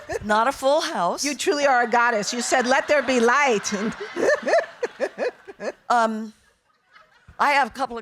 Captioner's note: audience laughing; laughing